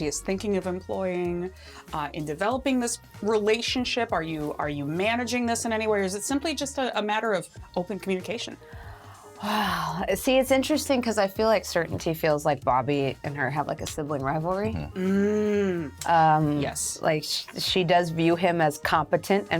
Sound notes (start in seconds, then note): 14.7 mm-hmms